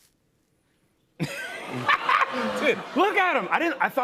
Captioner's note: laughs